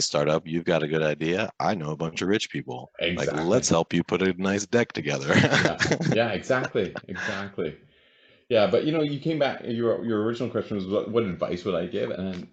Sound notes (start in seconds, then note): 5.7 chuckles